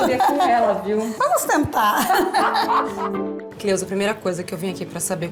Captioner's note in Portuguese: risos